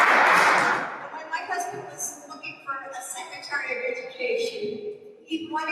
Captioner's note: applause